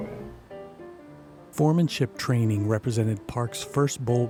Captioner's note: voiceover